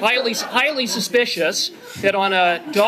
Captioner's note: laughter